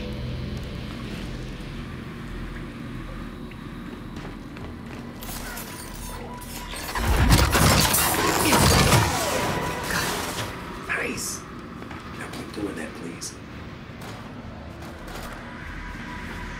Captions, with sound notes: [gunshots] Nice. Now, we're doing that, please.